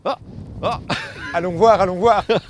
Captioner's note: laughs